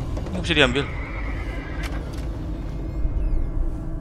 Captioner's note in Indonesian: suara kuda